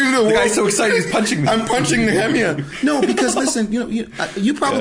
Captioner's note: laughing